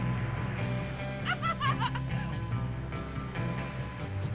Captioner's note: Bunny laughing